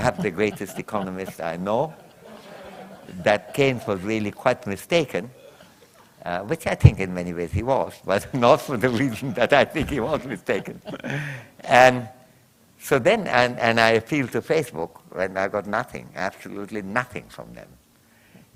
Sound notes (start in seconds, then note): 8.8 chuckles